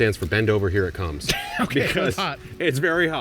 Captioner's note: laughs